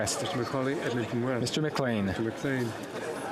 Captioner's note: speaking French